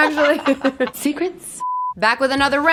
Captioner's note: laughing; color bars beeping